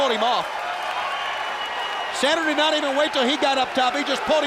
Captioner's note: crowd cheering